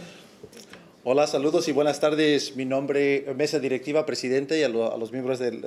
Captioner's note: speaking Spanish